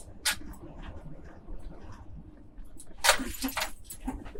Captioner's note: metal sounds